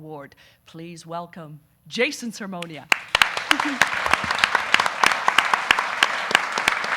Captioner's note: audience applauding